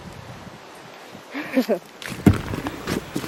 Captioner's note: laughter